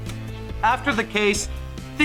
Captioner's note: gavel sound effect